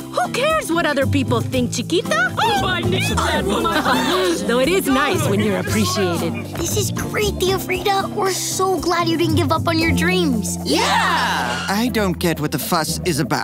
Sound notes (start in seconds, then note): 2.0 chattering